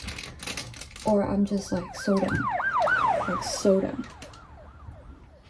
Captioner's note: siren sounds